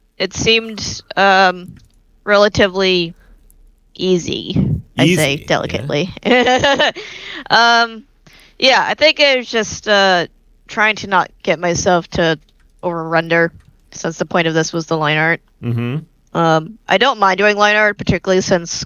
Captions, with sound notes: It seemed relatively easy, I'd say, delicately. (laughing) Yeah, I think I was just trying to not get myself to over-render since the point of this was the line art. I don't mind doing line art, particularly since